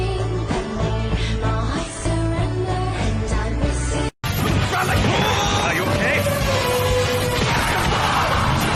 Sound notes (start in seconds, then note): 3.4 speaking in foreign language